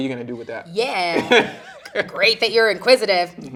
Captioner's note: interviewer chuckling